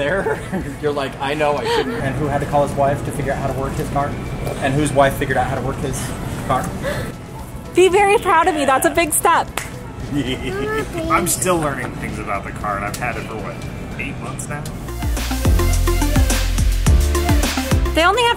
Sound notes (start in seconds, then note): 10.2 laughs; 14.7 playful music